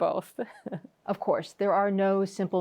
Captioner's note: chuckles